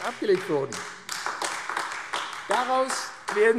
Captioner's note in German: Beifall AfD